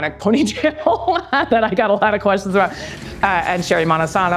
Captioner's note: laughs